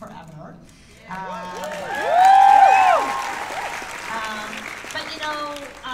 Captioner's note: cheers and applause